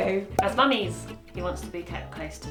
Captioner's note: popping sound